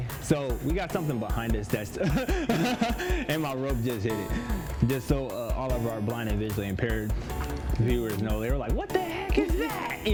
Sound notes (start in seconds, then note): 1.9 laughs